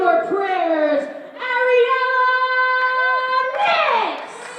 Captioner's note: fans clapping